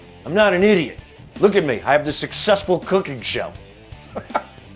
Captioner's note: laughs